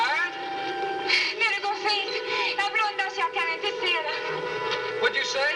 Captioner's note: speaking swedish